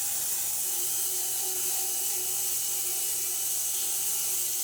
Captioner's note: saw whirring